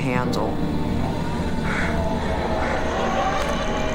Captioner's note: voices continue